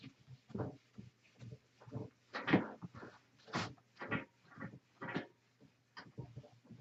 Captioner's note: eraser wiping and warping whiteboard